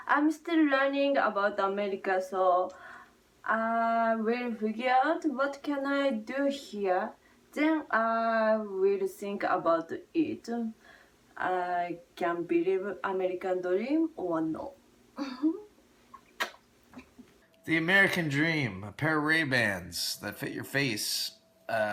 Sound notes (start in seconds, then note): 15.2 giggles; 16.1 lips smack